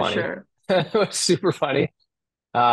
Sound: laughing

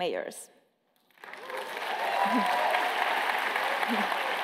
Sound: applause

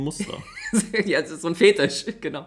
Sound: laughs

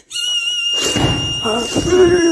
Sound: bang!

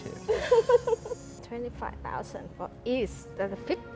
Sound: woman laughs

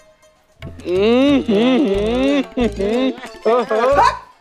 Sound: teasing laughter

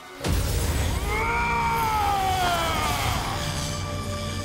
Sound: screaming

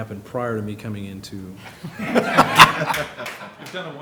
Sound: laughter

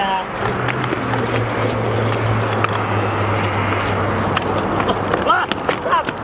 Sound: cars driving in distance; shouts

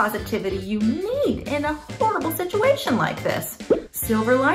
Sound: popping sound

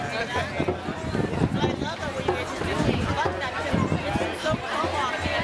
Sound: people talking

